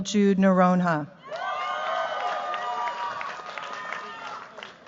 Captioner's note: cheers, applause